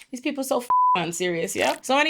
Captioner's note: beep